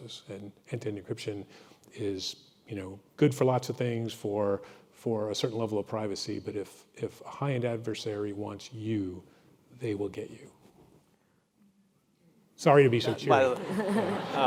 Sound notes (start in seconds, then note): 13.2 crowd mumbling